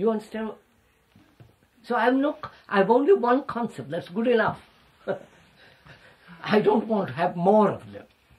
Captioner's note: laughs